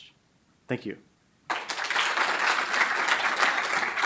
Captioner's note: applause